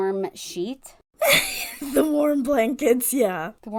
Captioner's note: laughing